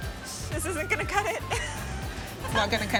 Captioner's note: laughs